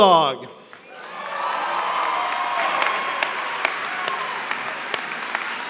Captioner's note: applause